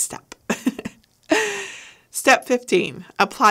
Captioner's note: laughing